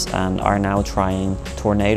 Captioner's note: none